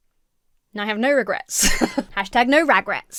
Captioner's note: Emma laughs